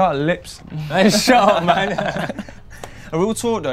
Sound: laughing

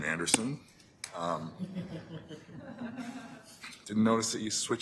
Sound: laughter

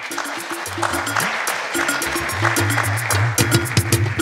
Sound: audience applauds

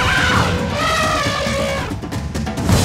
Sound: elephant horns

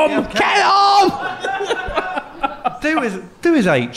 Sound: laughing

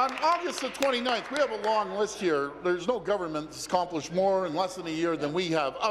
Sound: applause

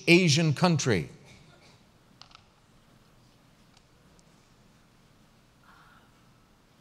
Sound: pause

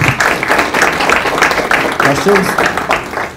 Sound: audience clapping

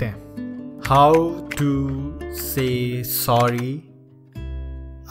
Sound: typing

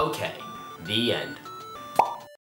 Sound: pop

